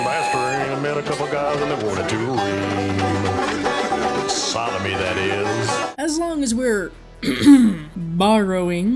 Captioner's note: clears throat